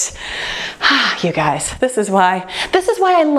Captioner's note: sighs